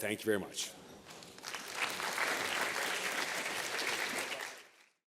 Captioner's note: applause